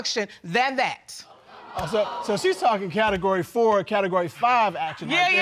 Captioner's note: audience gasps